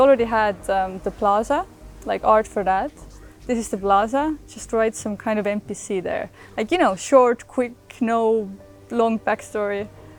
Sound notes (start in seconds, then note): none